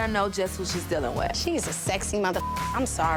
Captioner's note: beep